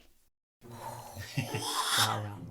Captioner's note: exhales